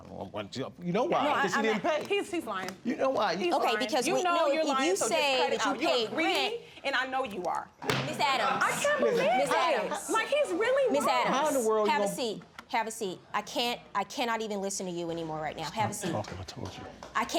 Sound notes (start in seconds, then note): 7.9 gavel strike